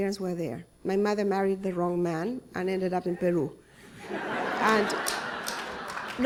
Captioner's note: laughter